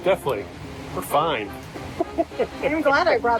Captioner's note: both laugh